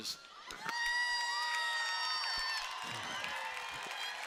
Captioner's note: cheering